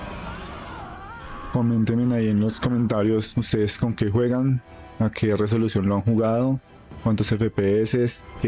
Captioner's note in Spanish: grito